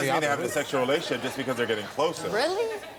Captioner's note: audience laughs